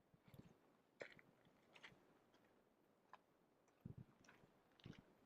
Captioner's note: gravel crunching